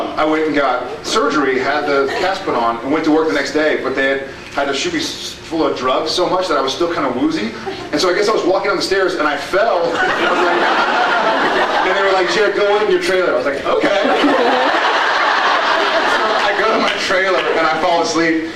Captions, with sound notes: I went and got surgery, had the cast put on, and went to work the next day, but they had -- had to shoot me s-- full of drugs so much that I was still kind of woozy, and so I guess I was walking down the stairs and I fell, it was like, [woozy laugh] [laughs] and they were like, “Jared, go wait in your trailer,” and I was like, “Ok!” [laughs] And so I go to my trailer and I fall asleep,